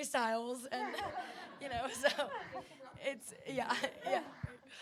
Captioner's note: audience laughing